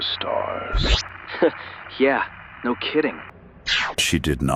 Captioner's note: laughs